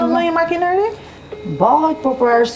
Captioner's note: phone is ringing